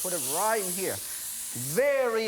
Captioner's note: sizzling